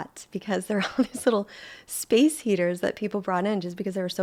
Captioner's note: chuckling